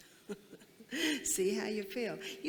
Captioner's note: laughs